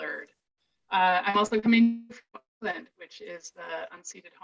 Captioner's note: audio distortion